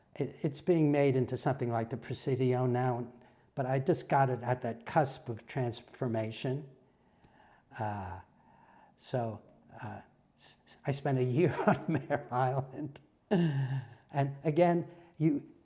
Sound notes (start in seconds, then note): 10.9 laugh